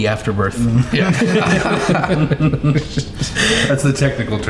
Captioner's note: everyone laughing